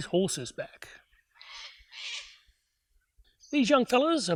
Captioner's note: bird noise